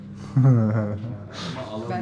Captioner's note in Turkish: Gülüşmeler